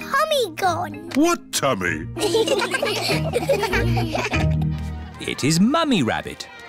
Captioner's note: laughter